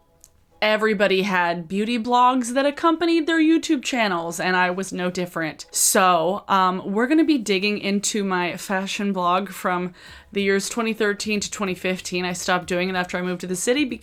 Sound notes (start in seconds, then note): none